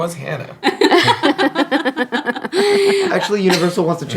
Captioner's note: laughing